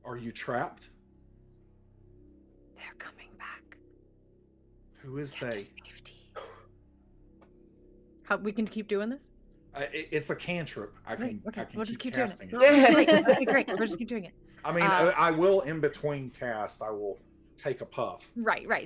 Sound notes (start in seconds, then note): 12.6 everyone laughs